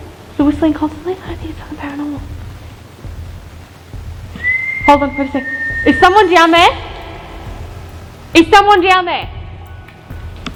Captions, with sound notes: The whistling constantly? I don't think it's paranormal (whistling) Hold on for a second (whistling) Is someone down there? (whistling) Is someone down there? Is someone down there?